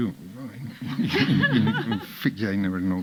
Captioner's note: audience laughing